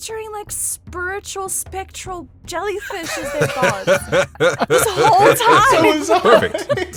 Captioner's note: laughs